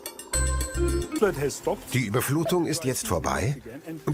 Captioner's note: speaking Foreign Language